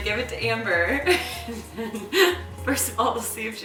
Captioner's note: laughing